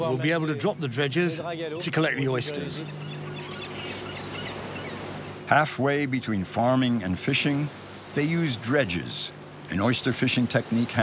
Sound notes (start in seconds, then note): 2.4 water sloshing; 3.7 birds chirping